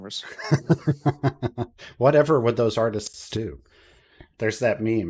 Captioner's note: laughs